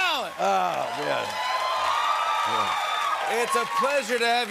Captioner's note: cheers and applause